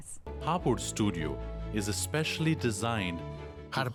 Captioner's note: Hablando idioma extranjero